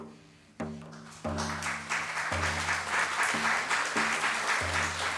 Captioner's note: applause